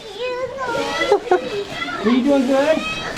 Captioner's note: chuckles